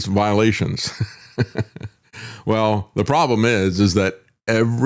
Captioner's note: laughs